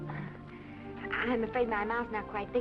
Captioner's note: Esther chuckles